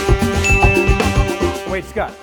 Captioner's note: upbeat music; bell dinging